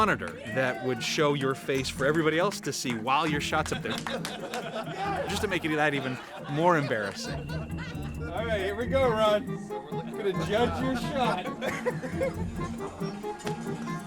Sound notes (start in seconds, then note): 3.6 all laughing; 11.9 laughing